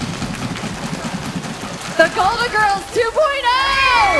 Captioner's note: feet stomping; hands clapping